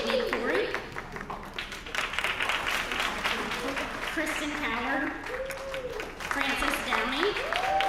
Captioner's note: applause